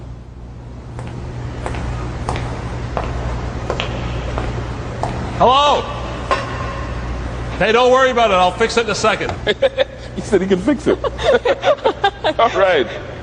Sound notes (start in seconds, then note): 0.9 footsteps approaching; 9.4 laughing; 11.4 both laughing